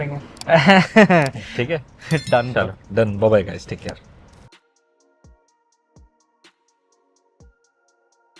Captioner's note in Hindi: हंसी